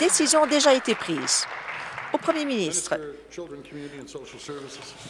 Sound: applause

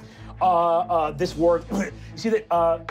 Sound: groaning

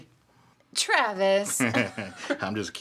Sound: Travis laughs

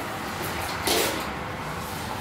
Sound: sprays

